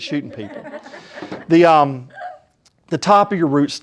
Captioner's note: laughter